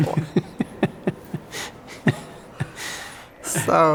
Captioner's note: laughing